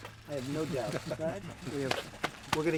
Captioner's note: laughter